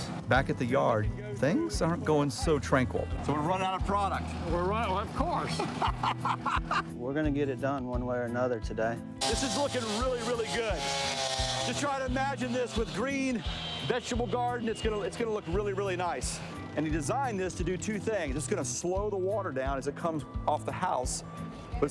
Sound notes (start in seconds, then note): 5.0 laughing; 10.9 saw whistling